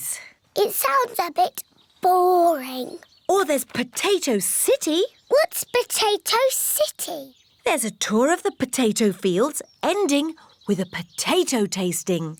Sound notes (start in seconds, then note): none